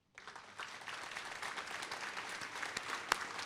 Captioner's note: applause